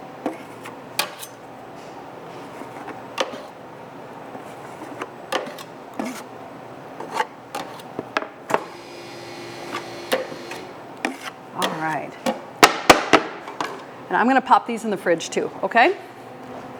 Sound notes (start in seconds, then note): 0.0 tray thuds; 0.3 scraper scraping; 8.7 machine revving; 11.0 scraper scraping; 12.7 tray thuds